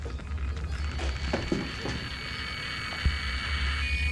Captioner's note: device crackling